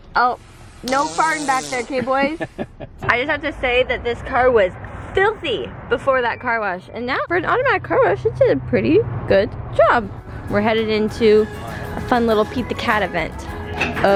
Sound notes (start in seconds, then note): 2.5 laughing